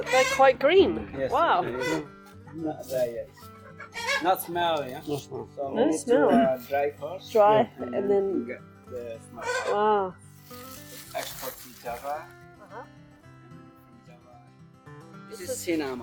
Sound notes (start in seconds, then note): 10.3 bag rustling